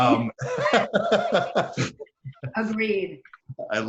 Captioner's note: laughing